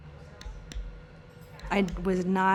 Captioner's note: mallet tapping